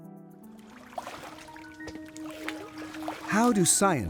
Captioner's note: water burbling sound